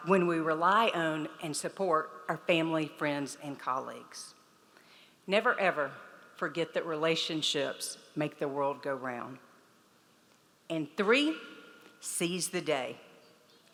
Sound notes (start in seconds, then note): none